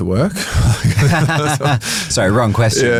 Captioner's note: both chuckle